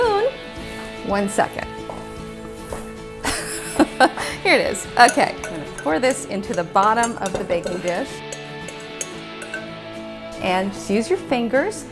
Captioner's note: laughing